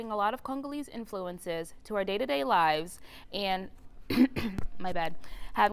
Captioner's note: cough